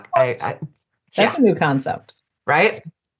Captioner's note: sarcastically